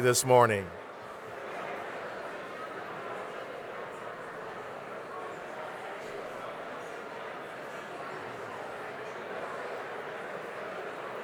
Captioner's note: crowd noise